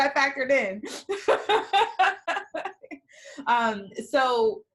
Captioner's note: laughing